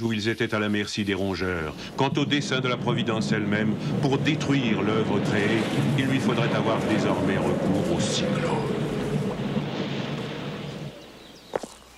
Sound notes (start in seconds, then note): 8.1 whistling wind